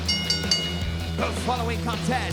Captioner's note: bell rings